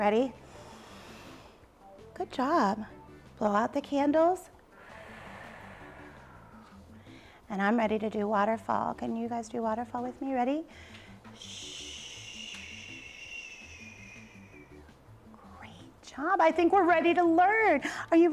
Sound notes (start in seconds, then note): 0.4 inhales; 4.7 exhales